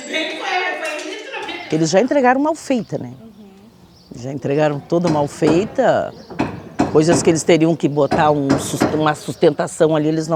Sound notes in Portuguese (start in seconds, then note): 1.8 pássaro canta ao fundo; 4.7 marteladas ao fundo